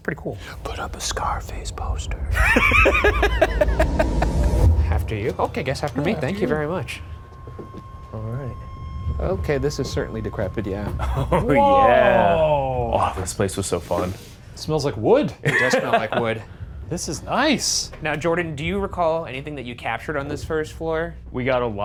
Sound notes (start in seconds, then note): 2.3 Ryan laughing; 4.3 ominous music